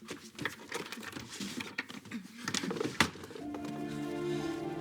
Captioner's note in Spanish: Sollozos